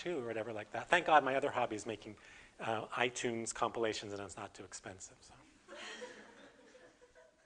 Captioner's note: audience: Laughter